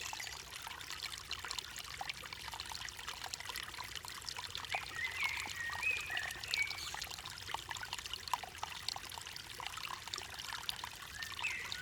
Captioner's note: sounds of water and birds